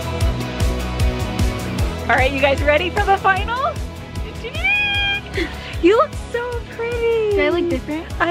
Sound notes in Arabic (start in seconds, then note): 4.4 تصرخ بحماسة